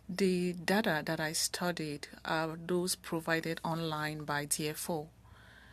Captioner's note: speaking French